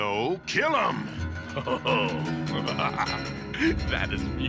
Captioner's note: evil laugh